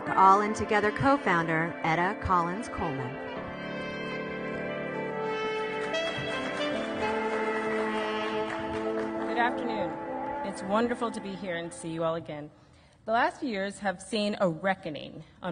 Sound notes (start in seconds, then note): 3.6 audience applauding; 3.6 instrumental music